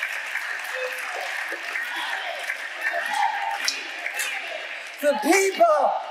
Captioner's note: audience chanting